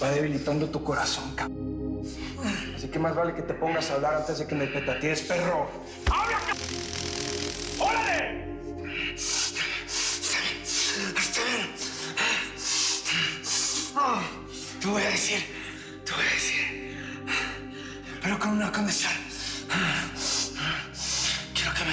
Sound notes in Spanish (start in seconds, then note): 6.0 Sonido de descarga eléctrica; 8.7 Respiración agitada